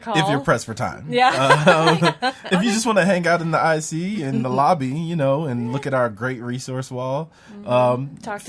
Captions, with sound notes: - Or maybe give a call. - If you're pressed for time. - Yeah. (laughs) - If you just wanna hang out in the IC in the lobby, you know and look at our great resource wall.